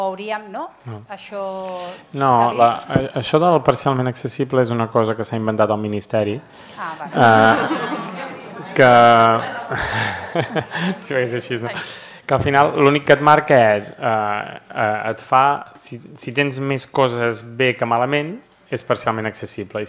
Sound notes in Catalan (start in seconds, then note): 10.7 riures